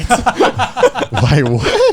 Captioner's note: laughing